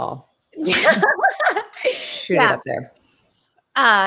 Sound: both laugh

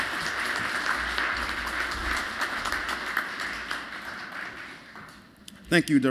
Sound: applause

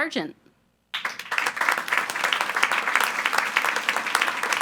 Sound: attendees applauding

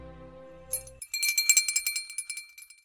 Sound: clanging bell

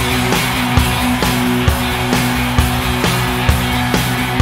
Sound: audience cheering

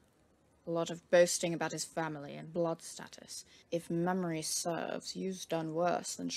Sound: none

